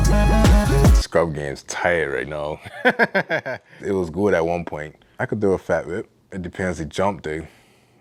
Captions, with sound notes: Scrub game’s tired right now. (rap music stops) (laughs) It was good at one point. I could throw a fat whip, it depends the jump though.